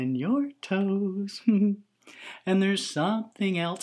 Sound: giggles

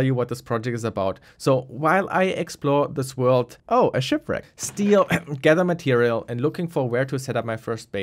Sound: cough

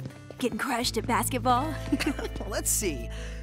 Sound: laughs

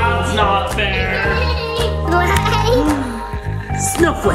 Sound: giggles

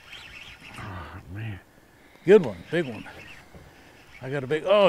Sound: reel cranking

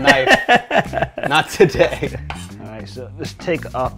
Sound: laughing

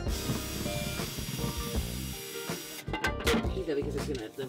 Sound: drill whirring

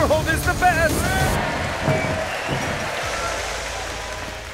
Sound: applause

